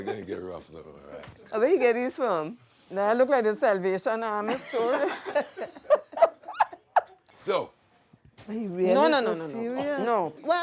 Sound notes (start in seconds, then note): 4.5 laughter